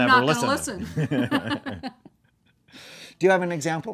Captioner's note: laughing